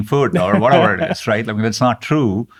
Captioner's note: laughing